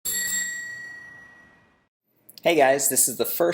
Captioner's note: ringing bell